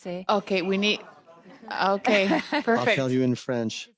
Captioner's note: speaking French